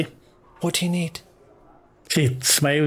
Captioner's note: hushed